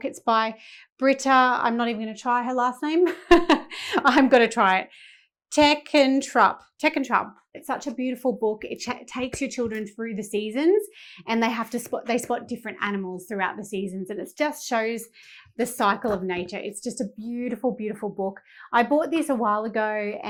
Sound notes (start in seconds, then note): 3.1 chuckling